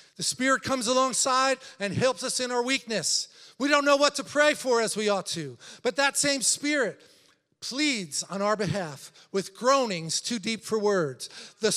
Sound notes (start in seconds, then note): none